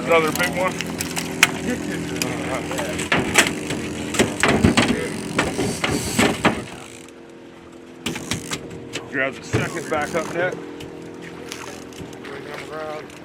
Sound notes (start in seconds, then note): 4.0 fish thrashing; 6.6 reel cranking